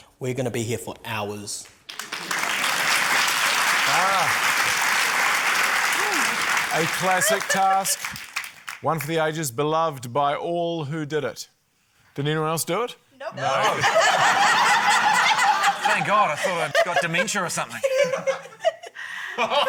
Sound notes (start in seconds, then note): 1.7 applause; 13.5 laughter